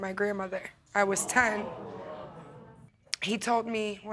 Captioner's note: audience gasp